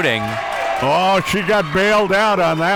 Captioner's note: audience cheering